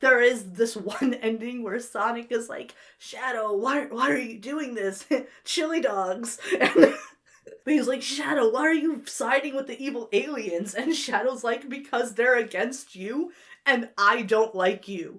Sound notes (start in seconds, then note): 6.5 breaks into laughter